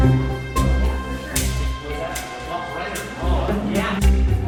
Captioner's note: background chatter